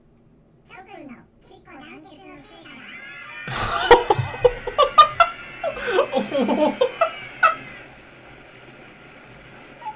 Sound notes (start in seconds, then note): 0.6 alien sounding Japanese; 3.4 laughs out loud; 6.7 laughs again